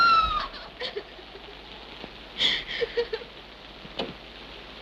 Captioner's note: Madeline screams; Madeline sobs